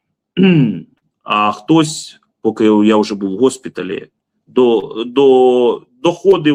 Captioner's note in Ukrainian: прочищення горла